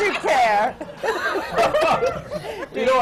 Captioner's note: laughter